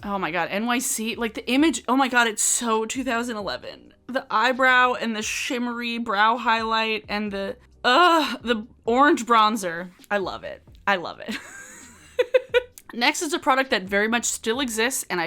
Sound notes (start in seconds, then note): 11.6 laughs